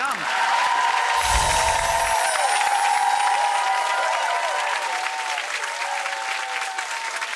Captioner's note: audience cheering; bright chimes